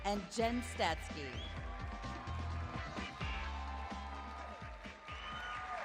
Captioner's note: cheering